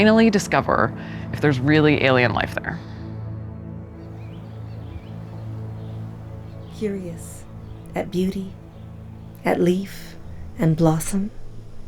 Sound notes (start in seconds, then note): 3.9 birds chirping